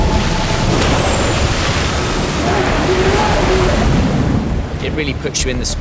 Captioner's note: water rushing